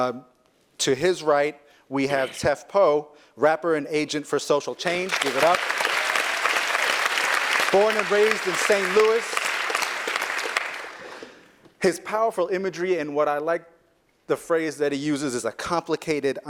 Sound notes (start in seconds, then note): 4.8 applause